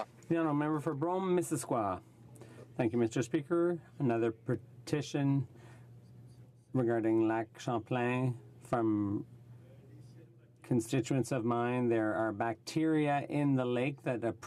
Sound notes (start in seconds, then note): 7.1 speaking french